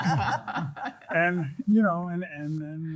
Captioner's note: group laughing